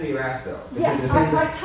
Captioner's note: laughs